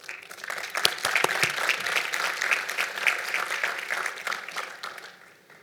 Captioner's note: applause